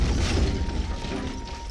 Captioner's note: clattering